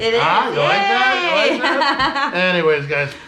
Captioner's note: laughing